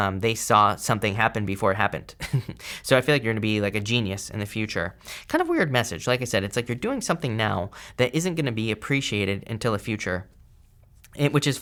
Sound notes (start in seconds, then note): 2.2 chuckles